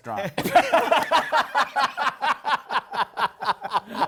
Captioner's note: laughter